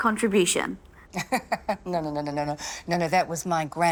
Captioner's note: laughs